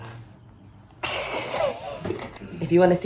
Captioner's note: laughing